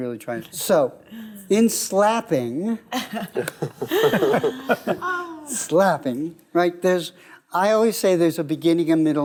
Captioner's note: laughing